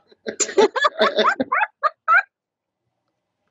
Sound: all laughing

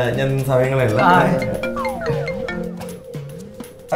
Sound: mobile ringing

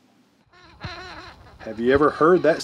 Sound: mad dauber buzzing

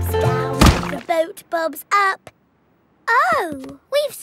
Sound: thuds

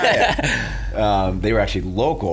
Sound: laughs

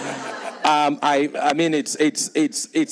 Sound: people laughing

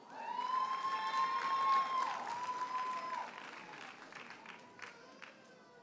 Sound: audience cheers and applauds

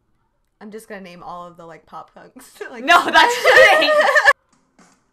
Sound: laughs

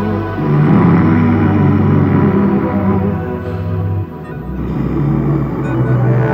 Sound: grunts

